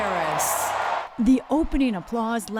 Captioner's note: applause; cheering